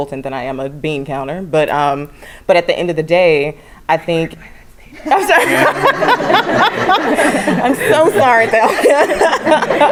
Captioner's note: laugh